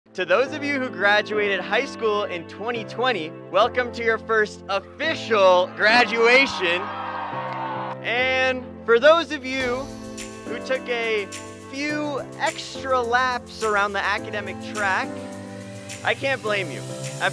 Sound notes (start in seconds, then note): 5.6 crowd cheers